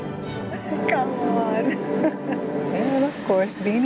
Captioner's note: laughs